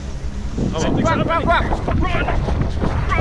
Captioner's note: man speaking Mandarin; speaking Mandarin